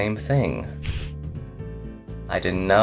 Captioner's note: laughs